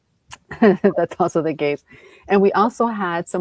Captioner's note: chuckles